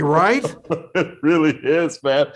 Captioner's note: laughing